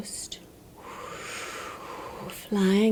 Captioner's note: imitating wind blowing